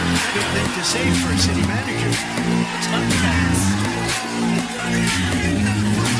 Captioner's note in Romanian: Aplauze